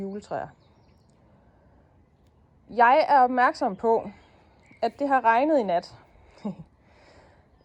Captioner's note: laughing